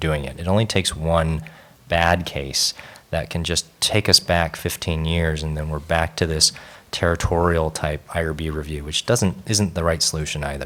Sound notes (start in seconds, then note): none